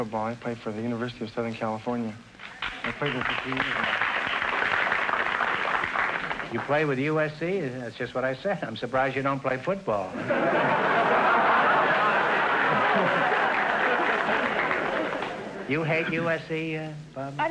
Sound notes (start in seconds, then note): 2.5 audience applause; 10.1 audience laughter